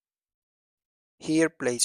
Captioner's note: pause